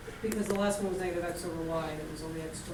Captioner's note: voiceover